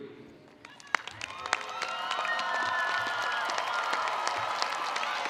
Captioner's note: attendees applauding